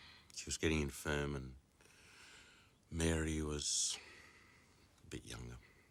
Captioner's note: none